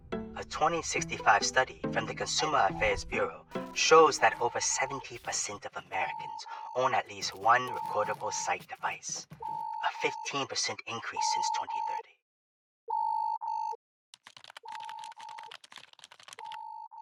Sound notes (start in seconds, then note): 14.1 typing